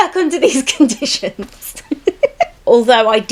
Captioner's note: laughs